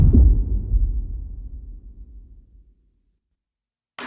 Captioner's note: dramatic sound